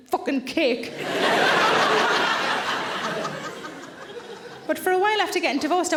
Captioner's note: audience laughs